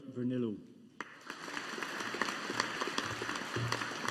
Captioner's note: audience applauding